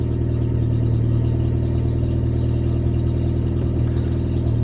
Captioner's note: engine Revving